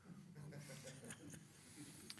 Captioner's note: chuckling